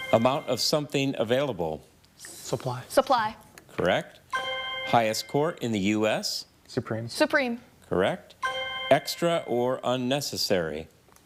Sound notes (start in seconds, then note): 0.0 chime resonating; 4.3 chime resonating; 8.4 chime resonating